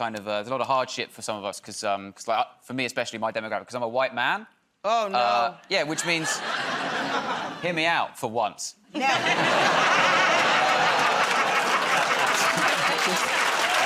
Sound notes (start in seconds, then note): 8.9 laughter; 12.4 laughter and applause